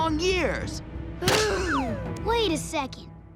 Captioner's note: sighing